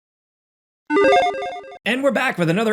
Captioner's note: graphics chiming